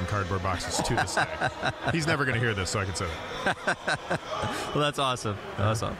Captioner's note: laughing